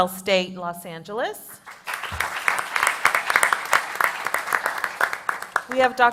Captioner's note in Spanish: Aplausos